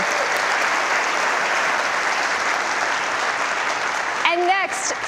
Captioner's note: audience applause